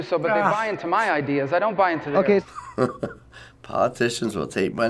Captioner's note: wry chuckle